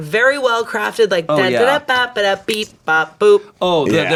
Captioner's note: vocalizes